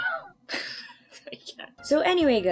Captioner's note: laughs at self